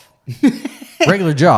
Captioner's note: laughs